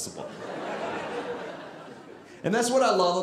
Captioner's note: audience laughing